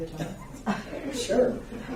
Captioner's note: laughing